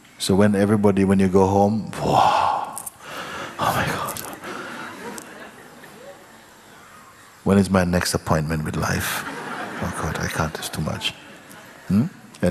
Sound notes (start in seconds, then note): 4.2 laughter